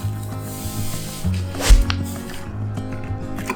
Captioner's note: shthlump